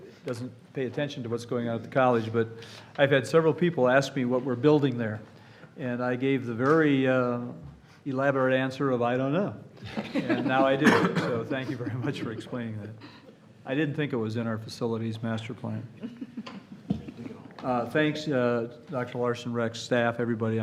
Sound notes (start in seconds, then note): 9.8 laughter